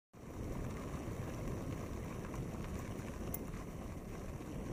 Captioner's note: bike wheel clicking